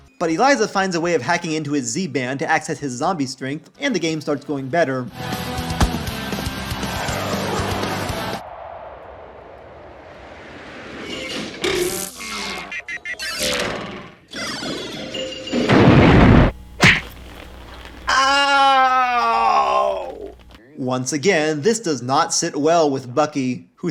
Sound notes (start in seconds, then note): 11.0 pinball machine sounds; 15.6 explosion